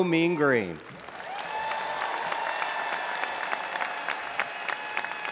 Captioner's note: audience applauding and cheering